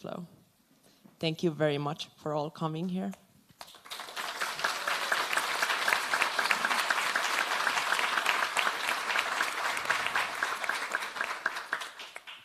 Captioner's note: applause